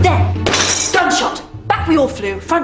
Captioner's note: tabel hit